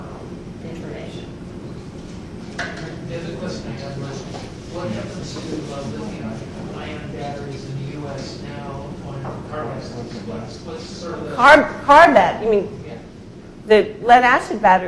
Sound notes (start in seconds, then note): 7.0 speaks faintly